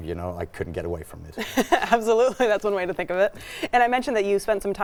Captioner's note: laughs